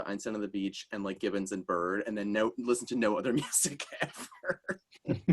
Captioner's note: laughs